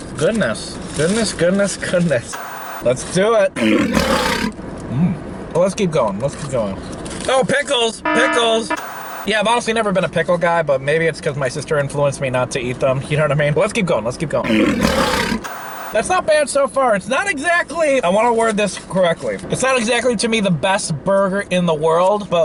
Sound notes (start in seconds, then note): 3.5 growling; 8.0 alarm blares